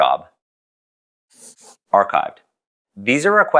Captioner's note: pencil scribble